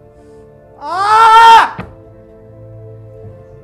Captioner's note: shout